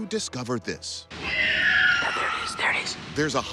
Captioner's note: screeching